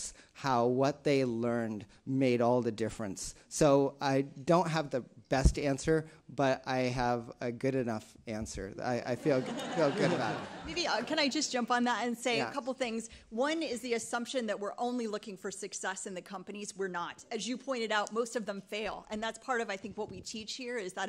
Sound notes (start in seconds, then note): 9.1 attendees laughing